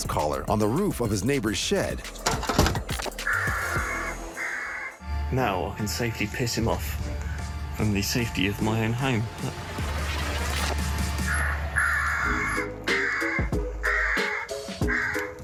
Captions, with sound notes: on the roof of his neighbor's shed. [crow cawing] [crow cawing]